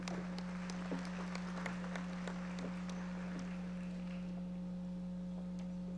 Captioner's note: audience members applauding